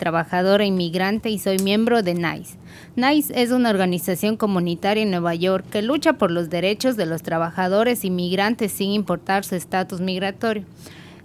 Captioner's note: speaking spanish